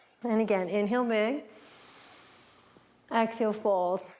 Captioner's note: breathes